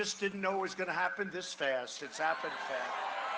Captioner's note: cheering and applause